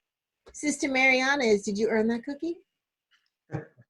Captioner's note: laughs